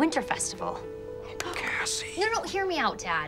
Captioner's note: hands clapping